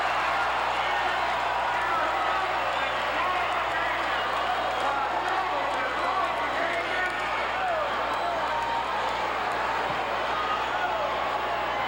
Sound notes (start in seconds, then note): 7.1 audience cheering